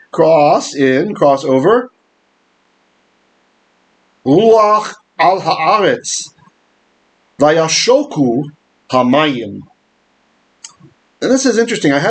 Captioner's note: Hebrew